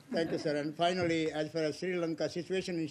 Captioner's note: laughter